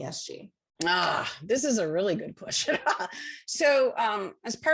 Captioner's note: laughter